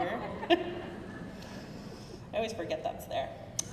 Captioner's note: crowd murmuring